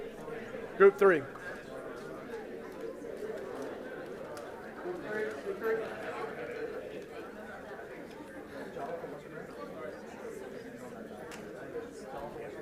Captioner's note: group chatter